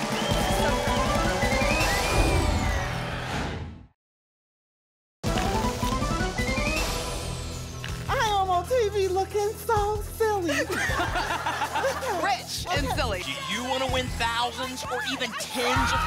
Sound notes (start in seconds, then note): 10.5 laughter